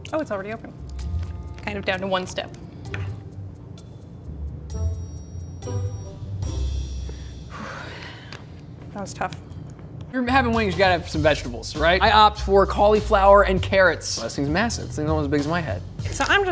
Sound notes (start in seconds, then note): 7.1 sighs